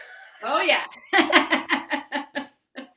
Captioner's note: laughing